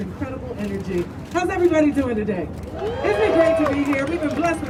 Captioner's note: crowd cheering